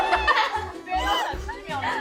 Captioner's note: laughing uncontrollably